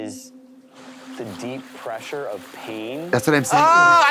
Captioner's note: water splashing